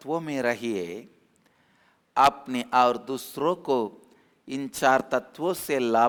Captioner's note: Hindi